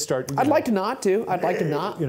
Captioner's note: imitates vomiting